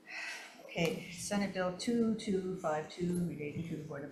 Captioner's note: sighs